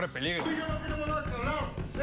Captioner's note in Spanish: golpes